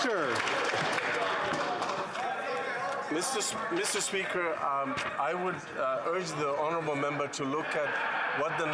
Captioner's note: some Applause